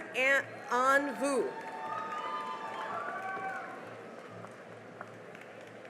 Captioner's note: cheering and applause